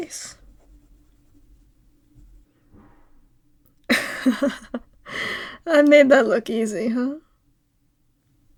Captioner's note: laugh